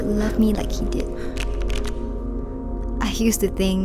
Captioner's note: card shuffling